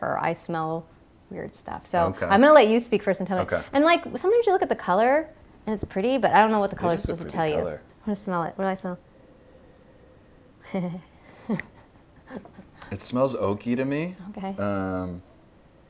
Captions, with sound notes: I smell weird stuff. So I'm gonna let youspeak first - ok - and tell me - and like sometimes you look at the color and it's a pretty but I don't know what the color supposed to tell you. It is a pretty color. I'm gonna smell it. What do I smell? (sniffing) (laughing) It smells oaky to me. Ok. Um.